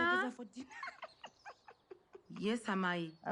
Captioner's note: giggles